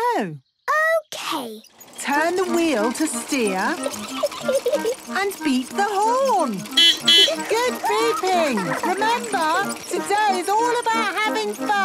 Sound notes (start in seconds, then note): 3.3 giggling; 6.3 beeping